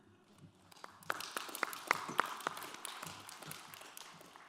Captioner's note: audience applauds